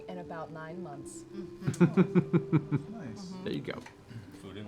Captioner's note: laughs